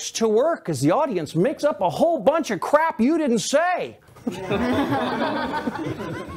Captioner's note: laughter